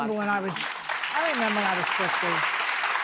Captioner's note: audience applauding